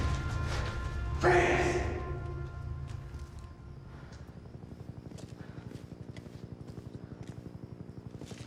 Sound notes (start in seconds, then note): 4.1 helicopter flying